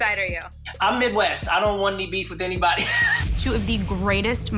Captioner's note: chuckles